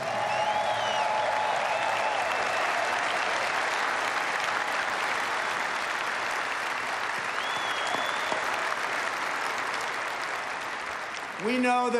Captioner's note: applause